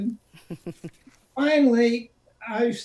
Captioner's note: chuckling